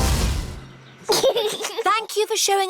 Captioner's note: giggles